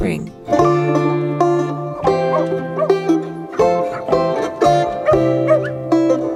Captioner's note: light gentle music; dogs barking